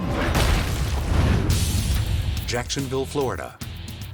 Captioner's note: logo slams